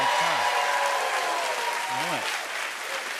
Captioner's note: cheers and applause